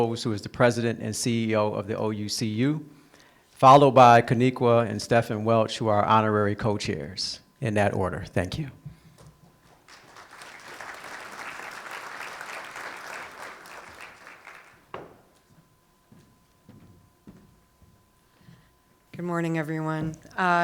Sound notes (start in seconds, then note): 13.5 applause